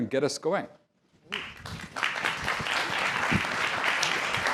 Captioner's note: applause